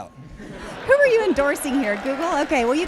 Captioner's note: laughing